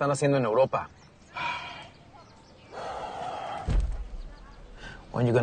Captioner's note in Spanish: Suspiros